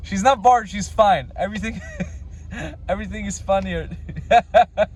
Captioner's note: laughs; laughs loudly